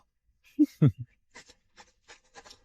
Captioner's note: chuckles